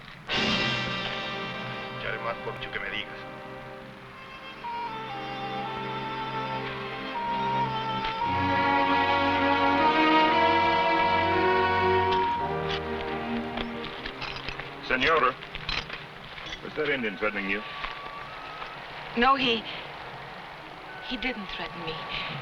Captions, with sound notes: (dramatic music) (people chattering) (somber music) - Señora. Was that Indian threatening you? - No, he didn't threaten me,